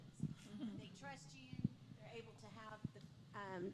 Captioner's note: laughter